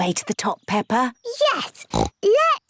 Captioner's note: snorts